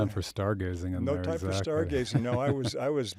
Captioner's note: chuckles